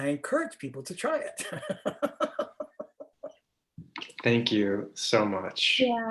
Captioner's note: laughter